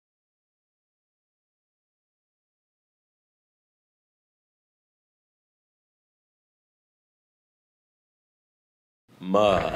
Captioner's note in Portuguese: Silêncio